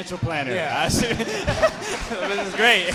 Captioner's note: audience and hosts laughing